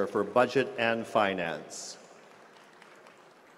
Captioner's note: applause